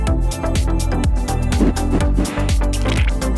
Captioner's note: sniffing